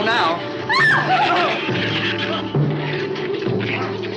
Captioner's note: Ann screams